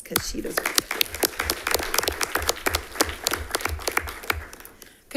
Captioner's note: attendants applauding